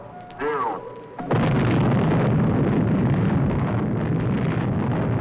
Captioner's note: exploding